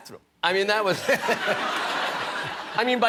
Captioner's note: laughter